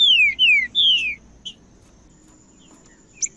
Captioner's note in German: trinca ferro cantando